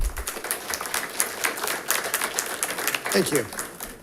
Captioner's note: audience applauding